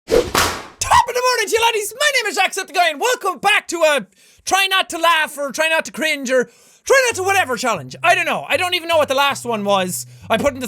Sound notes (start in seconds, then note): 0.0 whoopsh